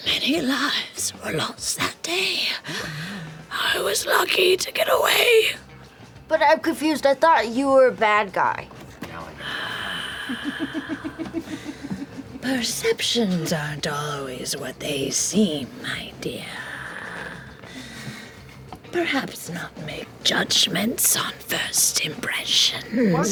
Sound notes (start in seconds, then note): 9.3 sighs; 9.8 laughs